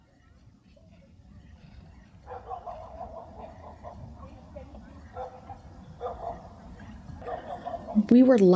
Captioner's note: ambient background noise of campground: dogs barking, people chatting